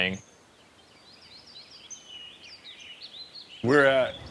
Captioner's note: birds chirping